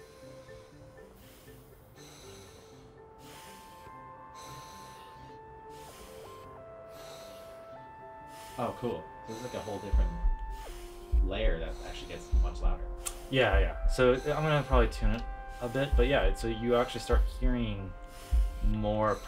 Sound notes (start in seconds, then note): 0.0 breathing sounds; 2.5 breathing heavier